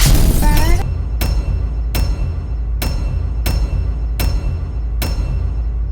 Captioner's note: explosion; metal clanking